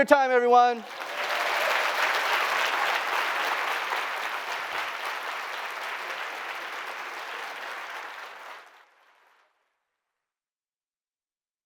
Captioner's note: applause